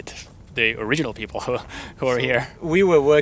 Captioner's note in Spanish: ríe